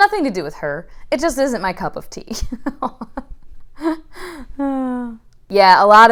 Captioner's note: chuckling